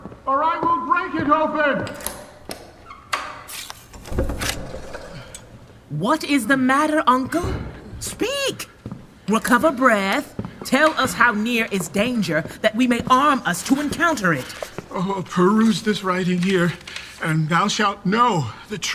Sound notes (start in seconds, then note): 1.8 door unlocking; 3.9 door opening